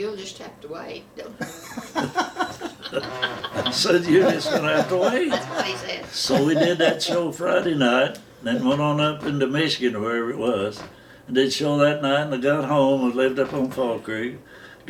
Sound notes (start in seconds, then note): 1.4 laughing